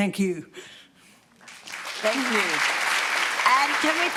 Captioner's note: applause